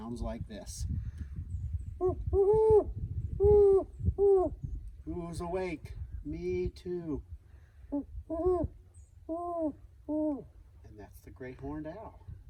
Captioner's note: hooting sounds